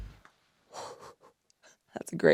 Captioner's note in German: lacht